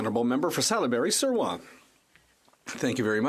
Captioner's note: speaking French